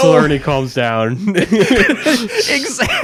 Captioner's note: hosts laughing